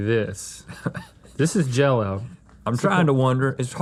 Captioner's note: Rhett laughing